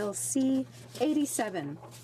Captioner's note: speaking french